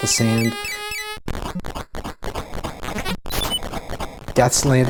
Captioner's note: crunchy sound effect